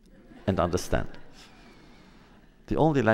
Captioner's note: laughter